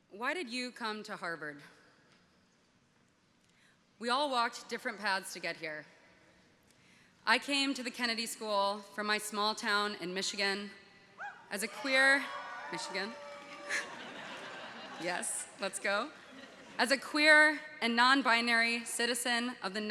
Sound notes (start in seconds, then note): 11.6 audience cheering; 13.5 audience laughing